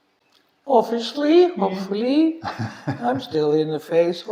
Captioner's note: laughing